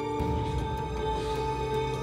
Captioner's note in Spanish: sollozos